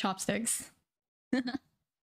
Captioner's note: giggle